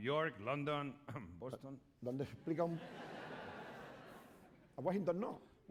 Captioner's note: speaking spanish